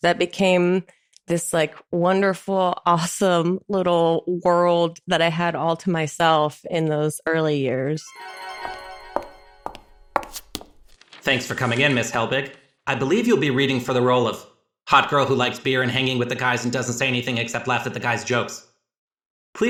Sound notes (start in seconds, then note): 8.0 magical chimes ring; 9.5 shoe heels clack on pavement